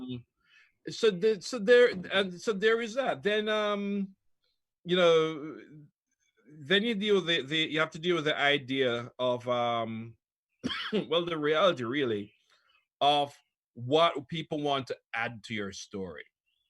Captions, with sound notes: - So there is that. Then you have to deal with the idea of (coughs) the reality really of what do people want to add to your story?